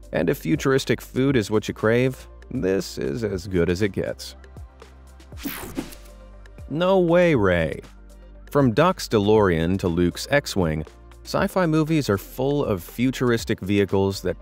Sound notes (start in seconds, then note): 4.7 slow relaxing music; 5.4 photo whooshing